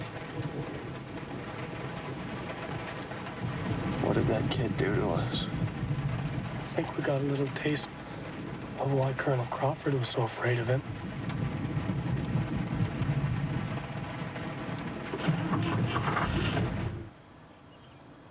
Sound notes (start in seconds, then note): 15.0 engine turning